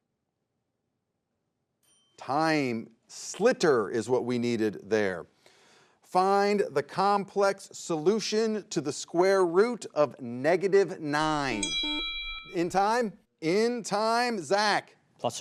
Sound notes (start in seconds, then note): 11.2 bell rings